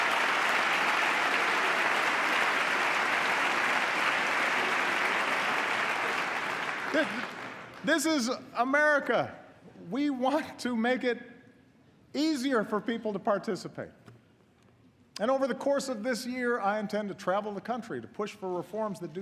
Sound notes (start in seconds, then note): 5.6 applause